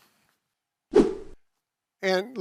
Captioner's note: air swooshing